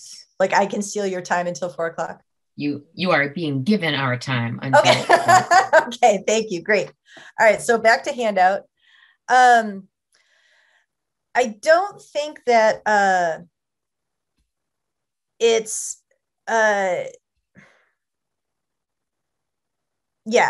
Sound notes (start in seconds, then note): 7.5 laughter